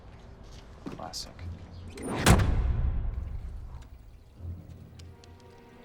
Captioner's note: trunk slams; dramatic music